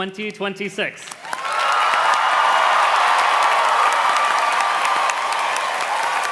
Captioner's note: audience cheers and claps